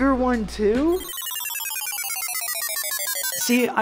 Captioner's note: beep